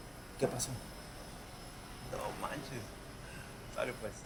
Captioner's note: speaks spanish